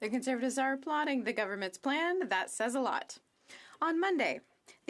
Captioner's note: speaking French